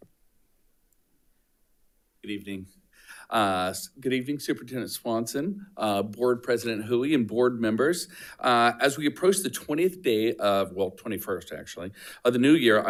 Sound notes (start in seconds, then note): none